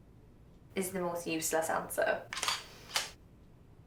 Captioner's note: shutter continues